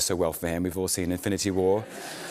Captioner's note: laughter